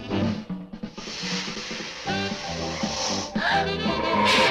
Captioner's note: leaves rustling; both gasp softly